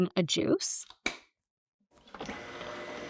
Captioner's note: lid clicking; juicer whirring